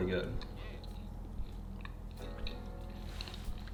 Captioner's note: chewing